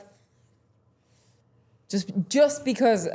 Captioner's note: none